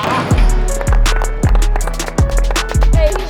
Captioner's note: clapping